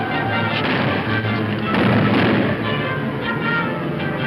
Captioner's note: loud booms